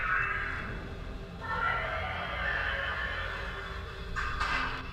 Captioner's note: something roars